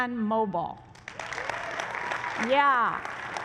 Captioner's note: applause